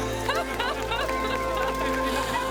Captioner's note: crowd